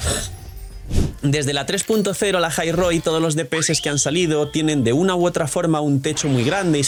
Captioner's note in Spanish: resoplido